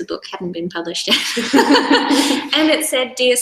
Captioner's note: both laugh